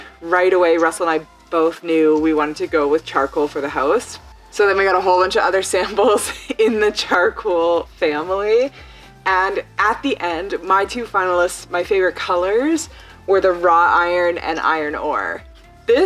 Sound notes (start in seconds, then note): 5.9 chuckles